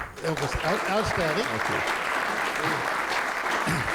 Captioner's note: applause